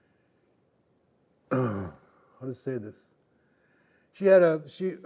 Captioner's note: clearing throat